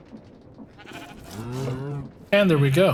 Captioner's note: coo mooing